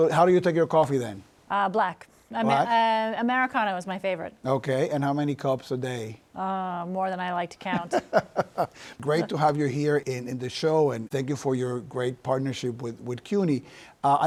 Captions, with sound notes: >>So, how do you take your coffee, then? >>Black. Americano is my favorite. >>Okay. And how many cups a day? >>Uh, more than I like to count. >>[ Laughs ] Great to have you here in the show, and thank you for your great partnership with CUNY.